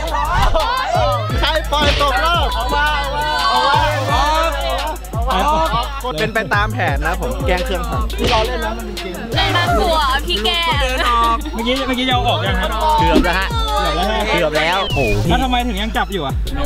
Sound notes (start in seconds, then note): 3.8 yelling